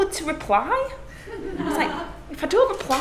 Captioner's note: class laughing